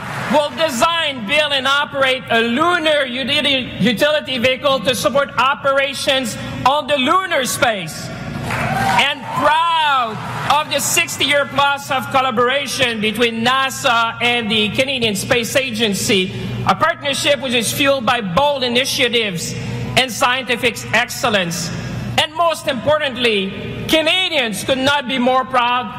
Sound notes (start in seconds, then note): 10.1 applause